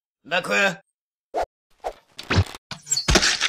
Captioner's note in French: bruit de flèche qui s'encoche et tirée